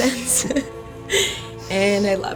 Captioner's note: laughs